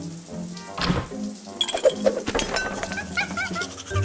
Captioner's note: objects clattering; monkey chattering